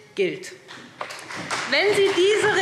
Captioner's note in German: Beifall SPD